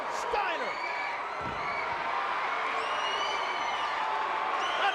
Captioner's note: fans screaming